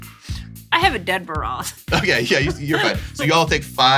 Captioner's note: laughing